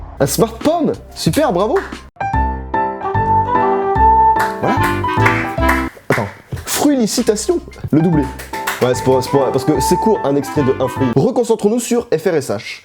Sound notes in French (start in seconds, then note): 4.4 Clap clap clap clap; 8.1 clap clap clap clap